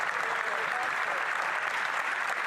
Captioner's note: applause